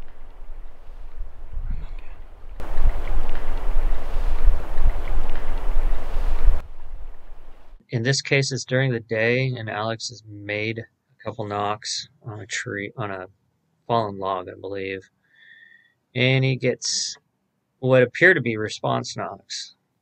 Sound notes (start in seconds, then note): 2.6 distant wood knocking